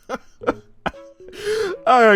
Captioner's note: laughs; inhales